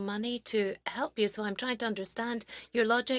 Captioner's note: speaking French